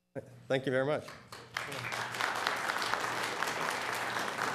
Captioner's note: applause